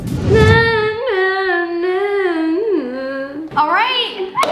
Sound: vocalizing

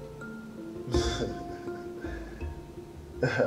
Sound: laughs

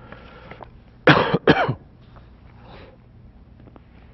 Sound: Eckhart coughing

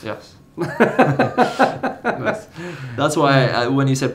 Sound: chuckles

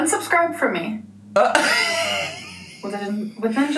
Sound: laughing

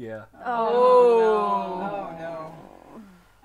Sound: chorus of 'Oh No's

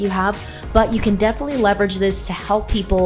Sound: swoosh

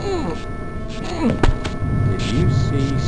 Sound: body drops

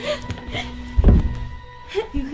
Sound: slam

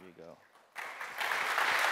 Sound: applause

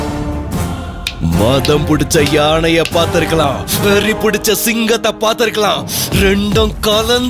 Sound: snaps finger

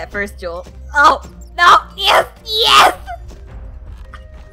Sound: yells

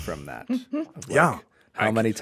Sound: chuckles

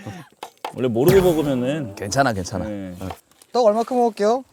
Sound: sigh…

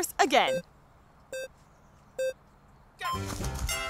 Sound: timer beeping

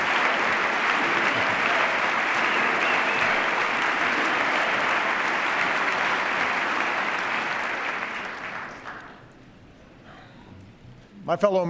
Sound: cheers, applause

